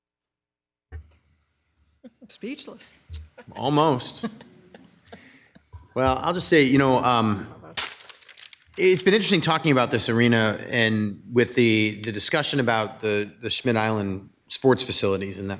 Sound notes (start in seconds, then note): 3.1 members laughing